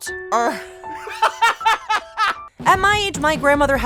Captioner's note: laughing